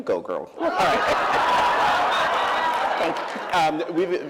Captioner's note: laughter